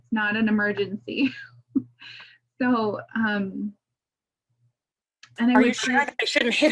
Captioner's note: laughs